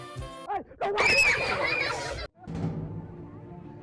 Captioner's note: screaming